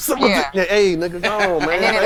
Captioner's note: chatter